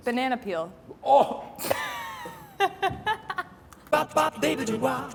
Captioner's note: laughing; upbeat music